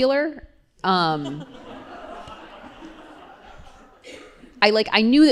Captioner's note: laughter